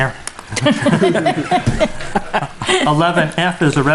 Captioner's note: board members chuckling